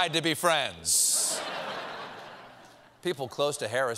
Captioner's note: laughter